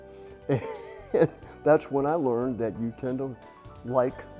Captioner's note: chuckles